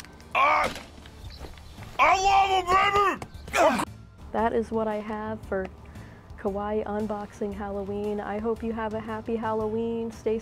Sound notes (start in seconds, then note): 0.3 grunt; 1.7 muffled shouting